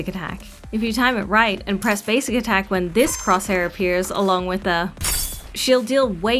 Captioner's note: shing!